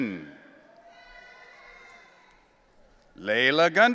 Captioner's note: audience cheering